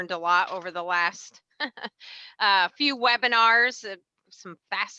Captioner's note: laughs